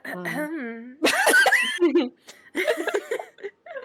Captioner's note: insinuative cough